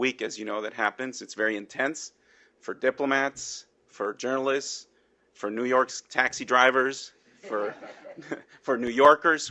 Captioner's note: laughter